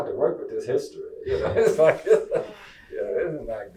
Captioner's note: chuckles